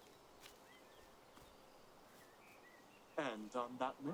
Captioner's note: birds singing